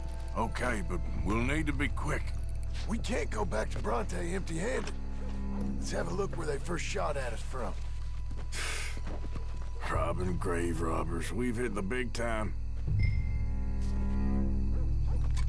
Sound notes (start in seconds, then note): 8.5 sighs